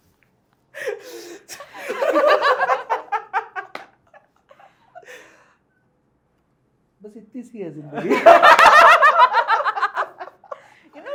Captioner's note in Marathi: हास्य